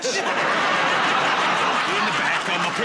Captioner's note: laughter